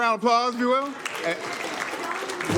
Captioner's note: applause